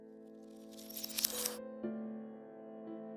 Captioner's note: shutter noise